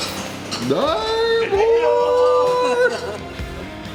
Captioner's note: team cheers